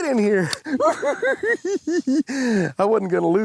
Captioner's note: giggles